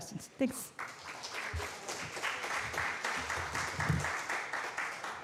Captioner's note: applause